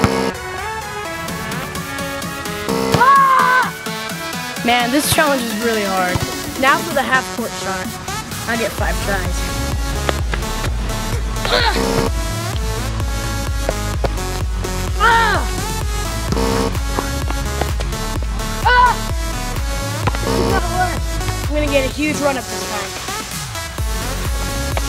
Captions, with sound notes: (buzzing) (buzzing) (yelling) Man, this challenge is really hard. Now for the half-court shot. I get five tries. (buzzing) (buzzing) (buzzing) I'm going to get a huge run up this time.